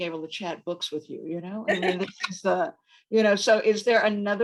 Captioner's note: laughs